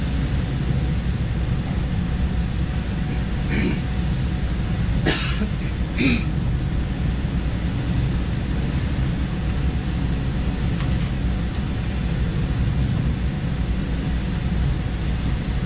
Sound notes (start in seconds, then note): 3.5 clears throat; 5.9 coughs; 5.9 clears throat